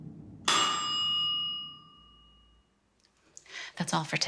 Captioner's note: timer dinging